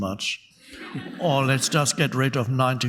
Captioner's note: audience laughing